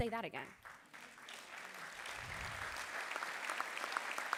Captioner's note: audience clapping